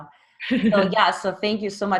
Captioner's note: laughs